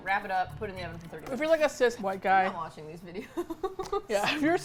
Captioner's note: laughs